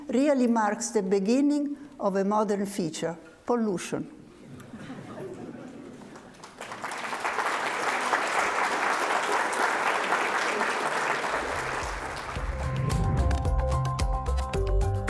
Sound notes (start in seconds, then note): 4.4 audience laughs; 6.0 audience clapping; 11.6 upbeat music